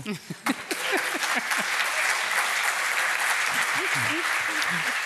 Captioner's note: applause